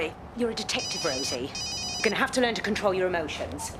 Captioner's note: mobile phone ringing